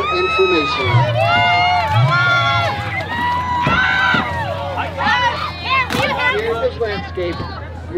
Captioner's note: screams playfully